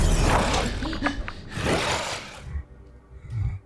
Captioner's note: man gasping